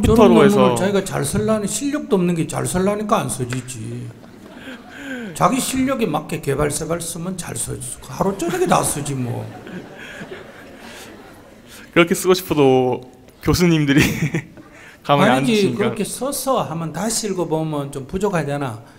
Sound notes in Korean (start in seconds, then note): 4.0 청중 / 질문자 웃음; 13.9 웃음